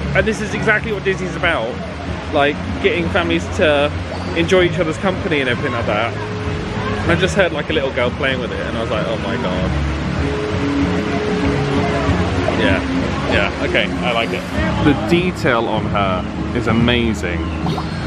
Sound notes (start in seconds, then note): 11.1 upbeat music continues; 12.2 water splashing continues